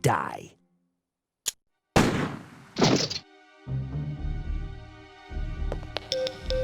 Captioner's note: gun goes click, rifle goes bang, floor goes oof!; radio beeping